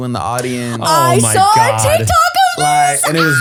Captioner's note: laughs